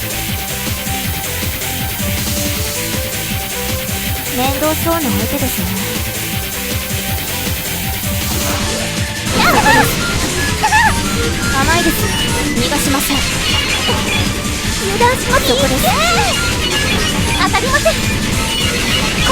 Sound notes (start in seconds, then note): 9.1 pounding heart